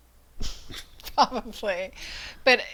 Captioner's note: laughs